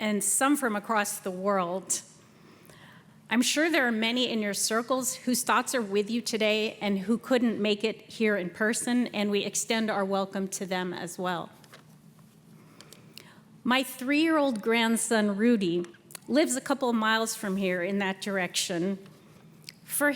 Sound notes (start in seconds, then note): none